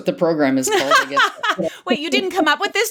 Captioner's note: laughs